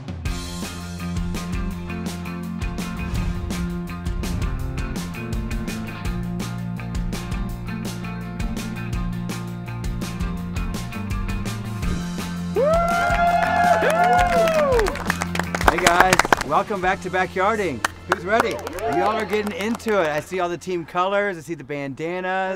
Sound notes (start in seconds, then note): 0.2 upbeat music; 9.2 upbeat music continues; 12.5 contestants cheering and applauding